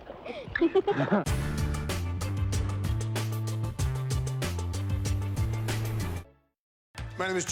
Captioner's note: laughter